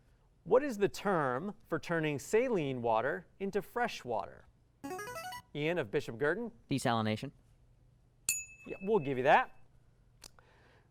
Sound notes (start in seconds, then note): 4.9 buzzer